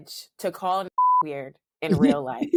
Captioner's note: beep